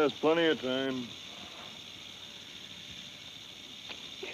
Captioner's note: snake rattles